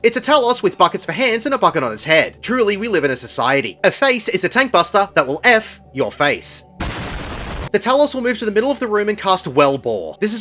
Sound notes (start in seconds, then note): 6.8 explosion